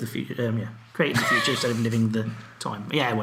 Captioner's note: laughs